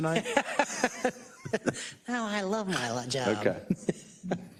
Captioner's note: laugh